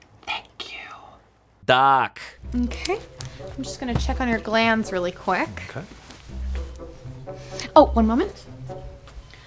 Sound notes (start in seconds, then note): 1.7 voiceover